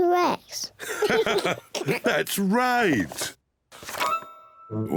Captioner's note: laughs